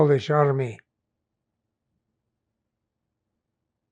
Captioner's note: pauses 6 seconds